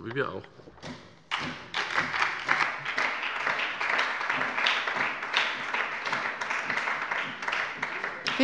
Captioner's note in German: Beifall bei der SPD